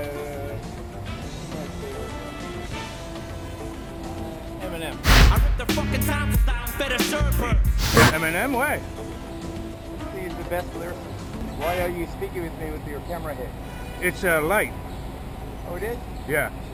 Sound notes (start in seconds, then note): 5.0 rap music; 7.7 swoosh